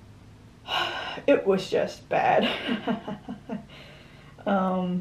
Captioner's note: laughs